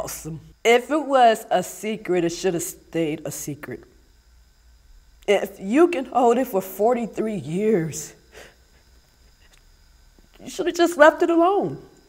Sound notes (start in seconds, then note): none